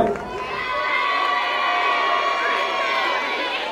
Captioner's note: crowd cheering